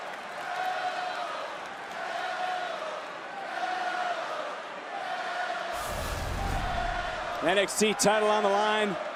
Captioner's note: crowd chants "melo"